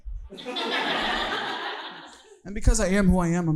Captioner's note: audience laughing